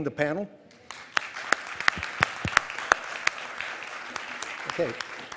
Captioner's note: audience applauding